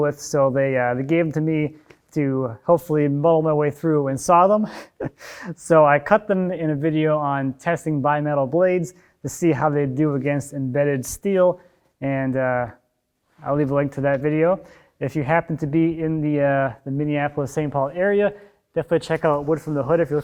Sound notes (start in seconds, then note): 5.1 laughs